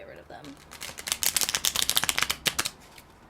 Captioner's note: more shuffling